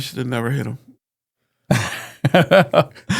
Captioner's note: laughing